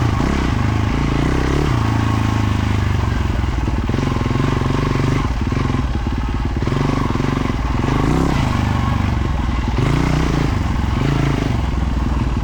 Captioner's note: engine revving